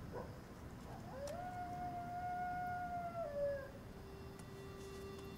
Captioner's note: coyote howling in distance; eerie music playing